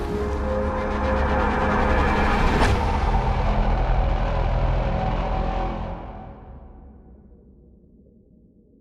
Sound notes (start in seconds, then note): 2.5 A distorted tone